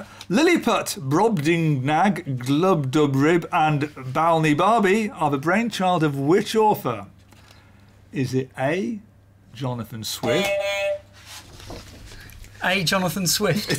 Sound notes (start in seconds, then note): 10.2 beep beep